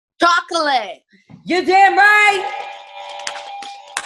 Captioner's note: clapping; buttons beeping